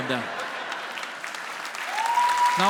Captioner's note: audience cheers